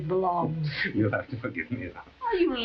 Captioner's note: chuckling